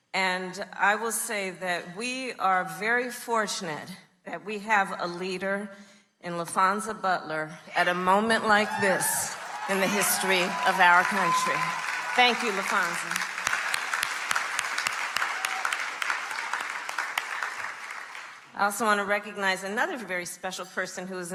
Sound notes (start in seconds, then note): 11.7 crowd cheering; 13.7 crowd cheering; 13.7 crowd clapping